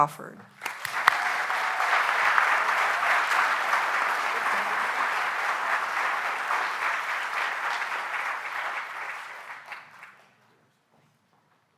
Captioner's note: applause